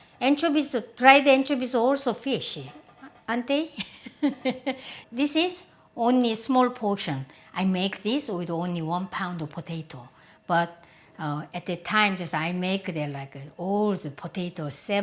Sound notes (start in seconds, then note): 3.6 giggles